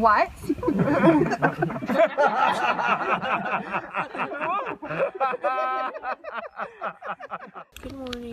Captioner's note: more laughter